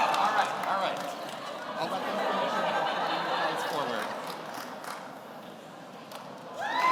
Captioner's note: speaking off mic